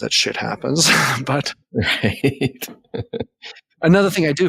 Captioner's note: laughing